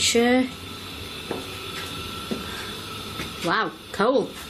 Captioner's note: foot steps